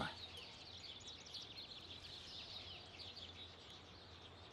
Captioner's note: birds chirping